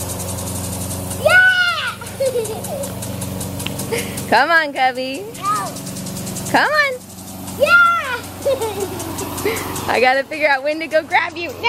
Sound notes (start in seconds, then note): 7.7 laughs